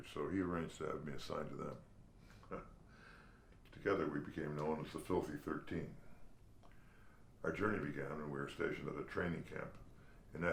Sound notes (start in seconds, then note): 2.4 chuckles